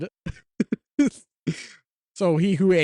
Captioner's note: giggling